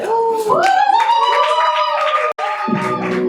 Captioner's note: applause